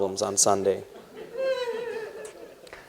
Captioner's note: laughter